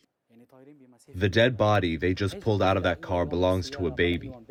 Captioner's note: through translator